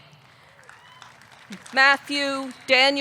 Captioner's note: audience clapping; audience cheering